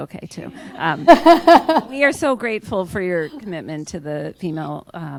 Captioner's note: laughter